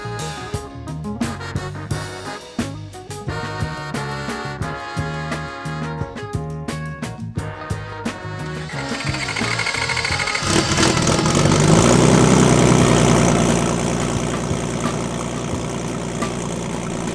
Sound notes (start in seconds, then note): 8.4 engine revving